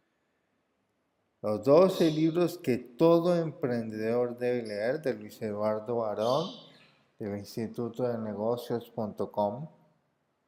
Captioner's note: in Spanish